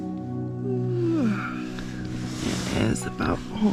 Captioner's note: yawn